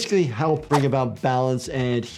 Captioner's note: graphics whooshing